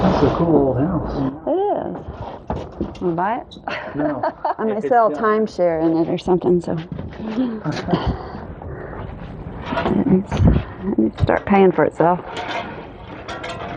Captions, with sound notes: It's a cool house It is! You wanna buy it? [Laughing] No? I may sell timeshare in it or something so It needs to start paying for itself